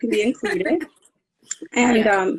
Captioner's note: laughing